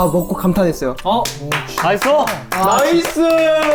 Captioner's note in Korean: 물개 박수